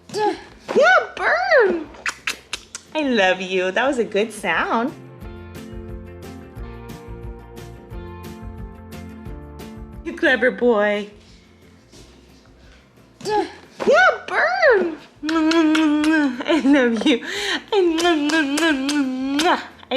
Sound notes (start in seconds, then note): 3.7 upbeat music; 15.2 kissing cheek; 17.9 kissing